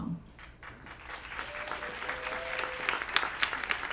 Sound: applause

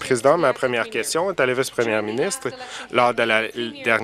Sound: applause

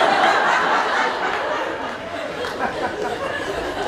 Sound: audience laughs

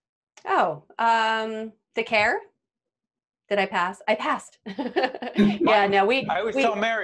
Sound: laughing

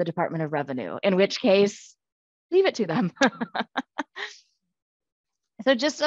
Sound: laughs

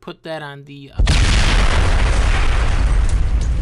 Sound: explosion

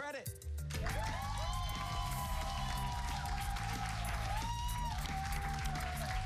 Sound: cheers and applause

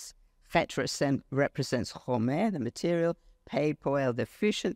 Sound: speaks foreign language

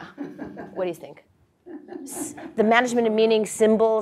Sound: laugh

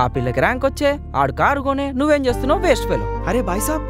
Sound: in Hindi

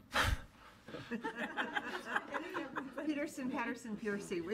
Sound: laughter

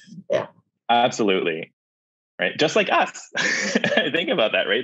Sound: chuckles

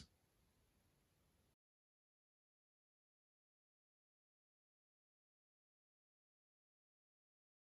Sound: silence

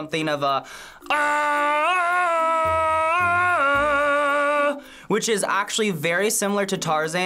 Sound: imitating Tarzan

